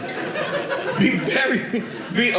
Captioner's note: audience laughing